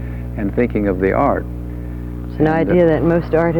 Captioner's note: speaking faintly